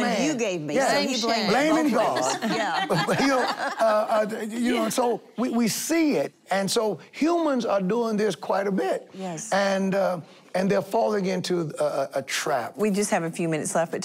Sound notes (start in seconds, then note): 1.8 laughing